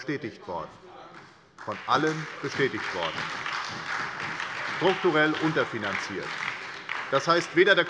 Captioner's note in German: Beifall bei der SPD